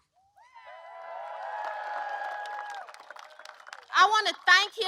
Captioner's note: applause